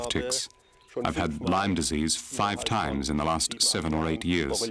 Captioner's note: speaking in foreign language